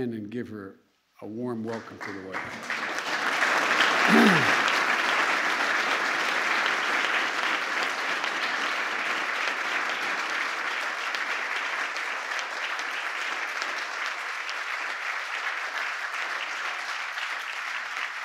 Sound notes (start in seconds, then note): 5.9 applause